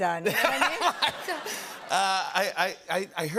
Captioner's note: laughter